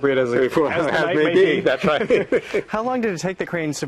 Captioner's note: laughing